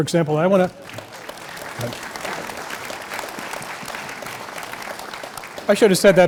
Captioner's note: applause